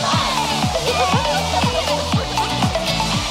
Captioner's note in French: Rires